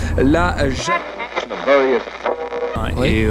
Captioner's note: radio noise